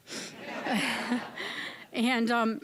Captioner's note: audience laughing